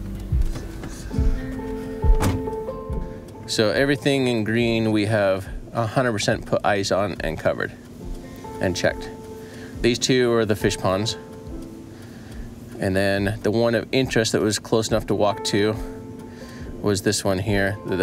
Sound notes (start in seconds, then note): 0.3 car door bangs